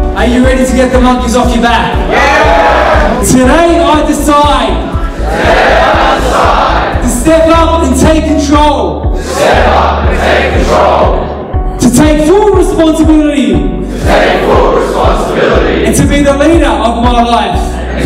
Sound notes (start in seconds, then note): 2.1 crowd Cheering